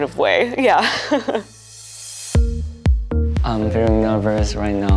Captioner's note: nervous laugh